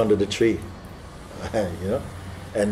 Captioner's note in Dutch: grinnikt